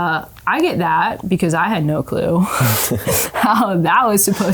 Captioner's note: laughs